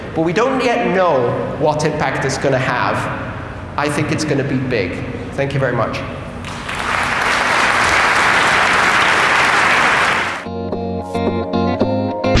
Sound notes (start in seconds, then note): 9.0 applause